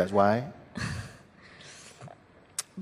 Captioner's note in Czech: smích